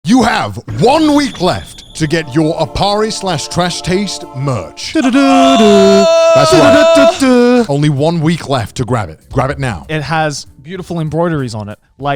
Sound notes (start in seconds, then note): 0.0 cheerful music; 4.8 yelling